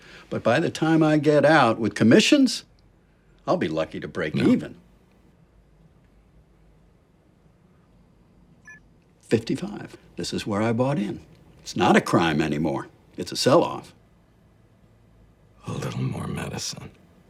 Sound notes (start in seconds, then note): 8.6 computer beeps